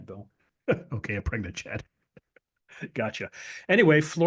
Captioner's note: laugh